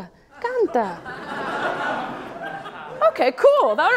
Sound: audience laughs

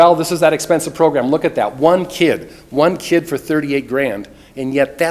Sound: none

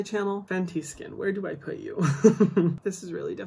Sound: chuckles

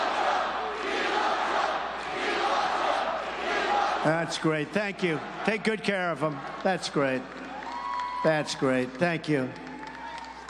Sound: crowd chanting

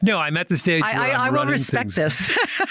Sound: laughs

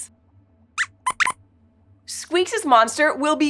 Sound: squeaks squeaks

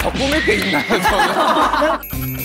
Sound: haha

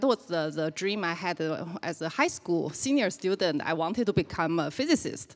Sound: none

